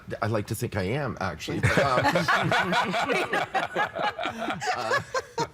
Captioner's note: all laughing